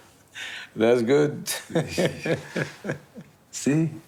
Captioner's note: laughing